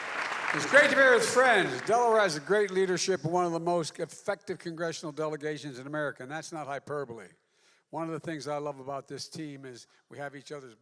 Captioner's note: applause